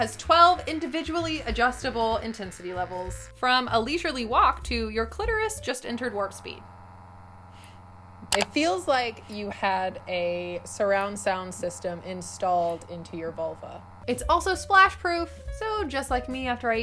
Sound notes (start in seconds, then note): 7.0 vibrator vibrating